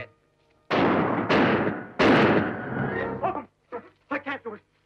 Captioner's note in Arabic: صوت البنادق